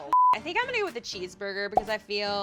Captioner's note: beep; pop